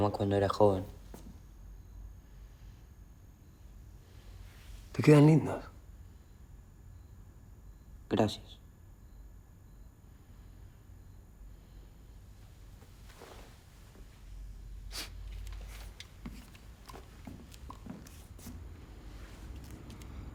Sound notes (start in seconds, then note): 0.3 Carlitos speaks in foreign language; 5.2 Ramon speaks in foreign language; 6.1 Carlitos speaks in foreign language